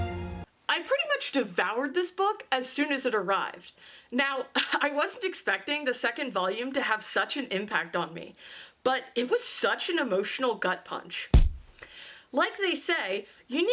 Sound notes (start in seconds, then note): 0.0 dramatic classical music; 11.3 punch sound